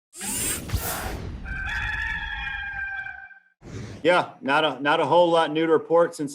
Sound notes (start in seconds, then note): 0.2 whoosh; 1.4 rooster crows